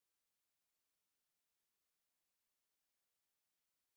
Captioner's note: none